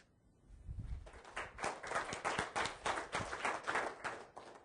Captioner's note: audience clapping